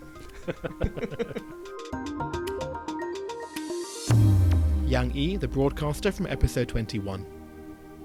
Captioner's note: voiceover